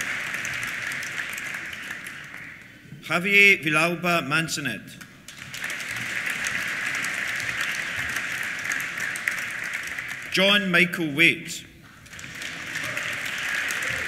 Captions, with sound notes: Javier Villalba Mansanet. (APPLAUSE) Jon Michael Waite. (CHEERS) (APPLAUSE)